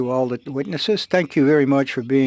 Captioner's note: speaking French